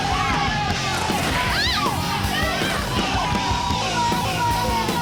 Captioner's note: Ursula shrieks